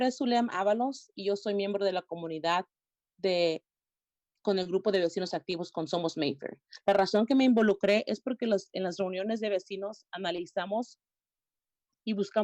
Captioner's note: spanish